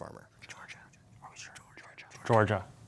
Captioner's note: whispering